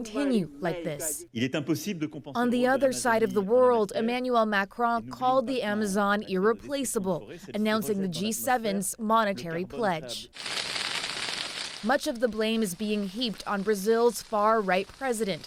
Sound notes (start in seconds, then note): 2.1 speaking French